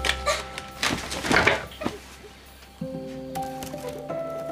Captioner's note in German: Sie schluchzt